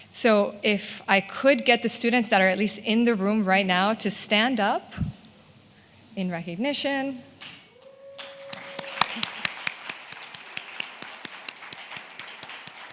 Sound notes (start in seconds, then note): 7.8 attendees cheers and applauds